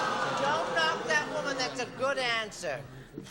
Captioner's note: booing